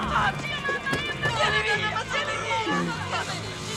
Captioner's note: confused scream